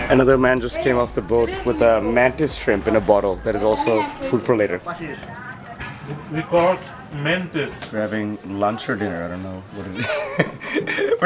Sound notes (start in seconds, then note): 4.9 foreign language; 9.9 laughs